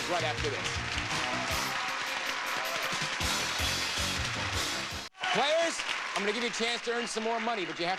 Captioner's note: audience applauding